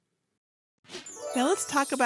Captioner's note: bells chiming